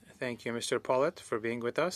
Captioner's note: speaking French